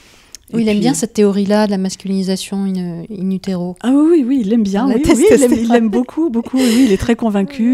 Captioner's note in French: Rires